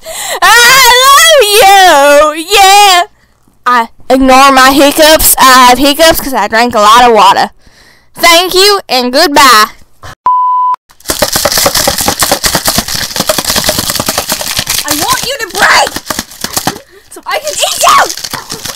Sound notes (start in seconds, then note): 11.0 vigorous shaking of ice in a cup; 18.2 more shaking